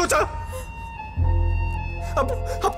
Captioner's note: Crying